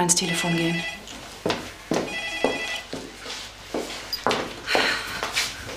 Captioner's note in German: Telefonklingel